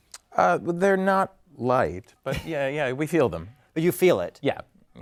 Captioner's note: laugh